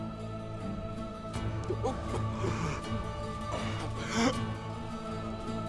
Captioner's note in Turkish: Nefes sesi; Müzik - Gerilim